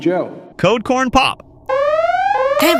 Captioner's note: alarm begins sounding